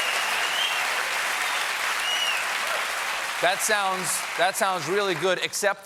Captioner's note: applause